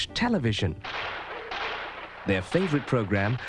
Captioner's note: gunshots firing on TV